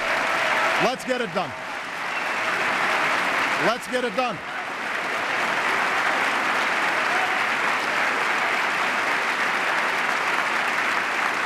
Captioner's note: applause